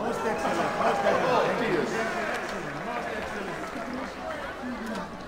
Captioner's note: applauding, cheering